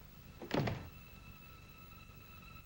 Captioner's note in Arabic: يغلق الباب